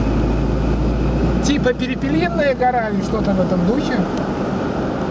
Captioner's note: in the Sami language